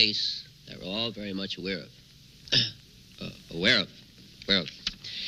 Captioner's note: coughing